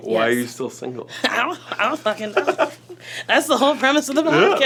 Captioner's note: laughs